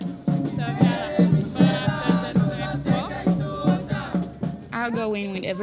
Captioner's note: speaking foreign language